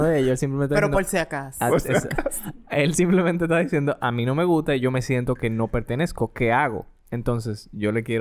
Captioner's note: laughs